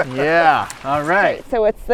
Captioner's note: laughs